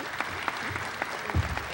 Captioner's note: applause